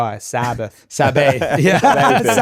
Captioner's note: laughing